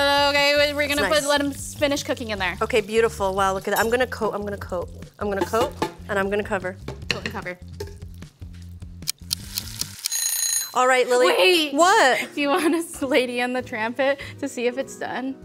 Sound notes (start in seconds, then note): 8.8 timer Ticking; 10.0 timer Ringing